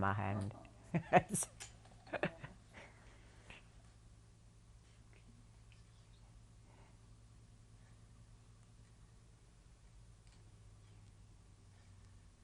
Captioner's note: laughs